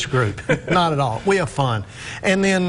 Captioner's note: laughing